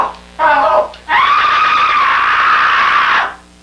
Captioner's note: screaming